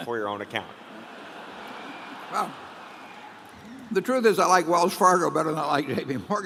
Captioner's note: applause